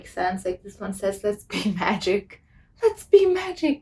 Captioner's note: laughs